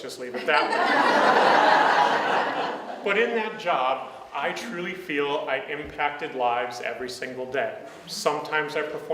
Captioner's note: audience laughs